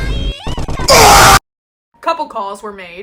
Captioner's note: silence